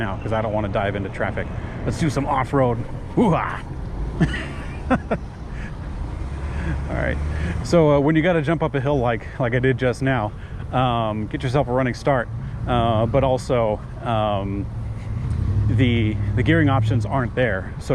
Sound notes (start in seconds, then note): 3.2 sighs loudly; 4.0 speaker laughing